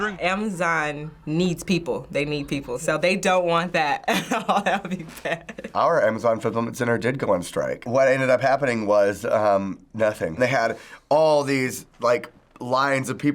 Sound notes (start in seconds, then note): 4.1 laughs